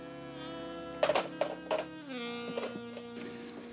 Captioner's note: saxophone music; phone hanging up